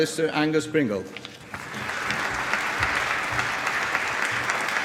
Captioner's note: applause